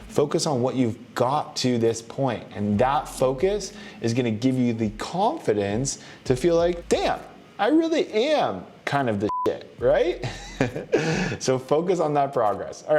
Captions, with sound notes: Focus on what you've got to this point. And that focus is going to give you the confidence to feel like, Damn! I really am kind of di-(beep). Right? (laughs) So focus on that progress.